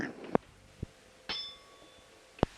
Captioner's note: bell Sound